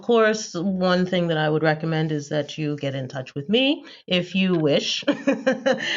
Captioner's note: laughter